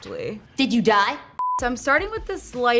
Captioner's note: beep